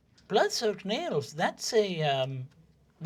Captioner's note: elderly, high-pitched voice